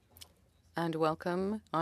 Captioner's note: speaking French